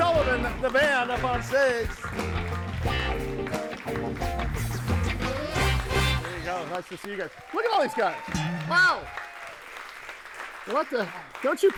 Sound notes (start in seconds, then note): 1.8 audience applauds; 2.9 upbeat music; 8.2 audience cheers; 9.3 audience applauds